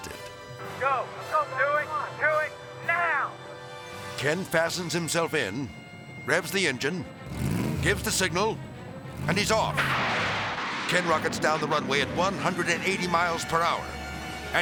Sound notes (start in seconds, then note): 6.9 engine rumbling; 9.7 rocket blasting; 9.9 tense dramatic music